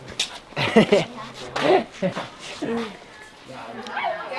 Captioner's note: giggles; people chatter